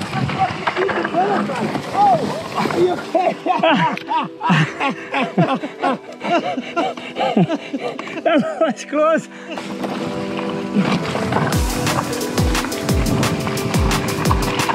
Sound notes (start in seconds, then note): 2.6 laughter; 10.9 upbeat electro music